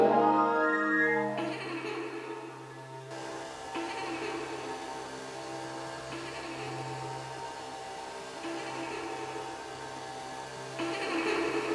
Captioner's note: unsettling giggle